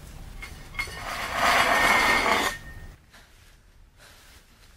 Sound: clanking

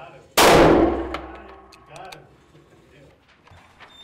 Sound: gunshot

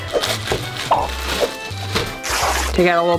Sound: bag crinkling

